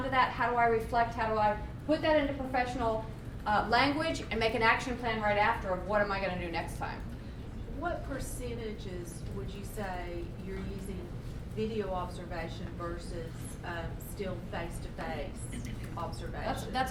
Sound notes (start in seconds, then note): 7.7 voiceover